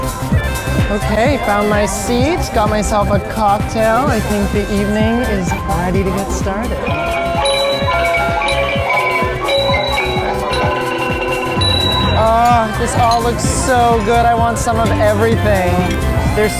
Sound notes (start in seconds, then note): 8.6 chimes ringing